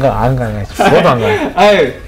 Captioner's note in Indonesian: tertawa